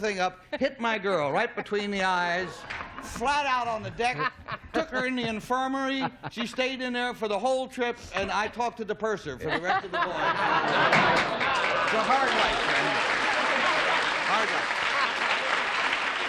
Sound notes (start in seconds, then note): 11.2 laughter